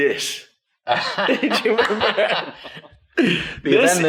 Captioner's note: laughs